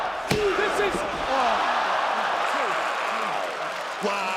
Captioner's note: audience cheering